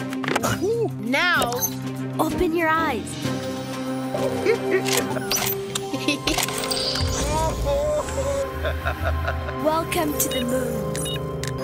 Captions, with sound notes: - Oh-hoo! - Now, open your eyes! (Babu chuckles) (MB chuckles) - Oh! Ho! Ho! (chuckling) - Welcome to the moon. (beeping)